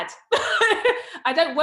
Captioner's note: laughs